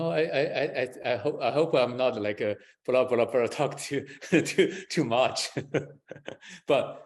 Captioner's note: laughs